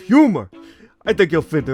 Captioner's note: inhales